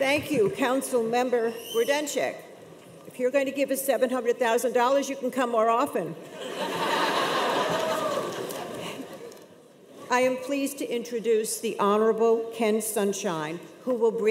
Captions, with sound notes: - Thank you, Council Member Grodenchik. If you're going to give us $700,000, you can come more often. (audience laughs) I am pleased to introduce the Honorable Ken Sunshine,